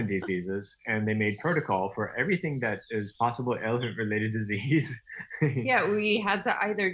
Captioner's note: laughing